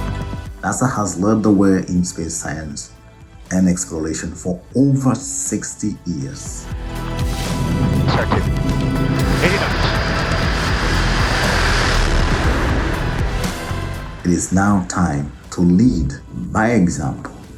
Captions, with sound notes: NASA has led the way in space science and exploration for over 60 years. [Radio Chatter] [Aircraft engine] It is now time to lead by example